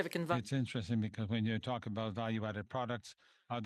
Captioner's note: speaking French